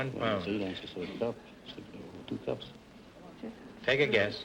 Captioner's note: whispering